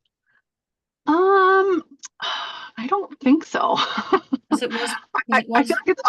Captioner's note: laughs